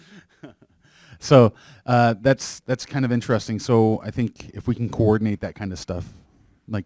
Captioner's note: chuckles